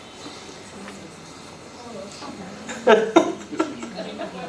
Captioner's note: speaker Laughing